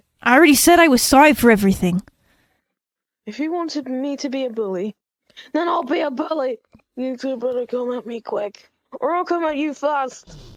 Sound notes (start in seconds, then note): none